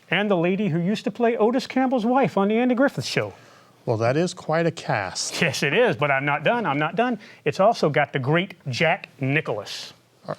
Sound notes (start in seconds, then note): none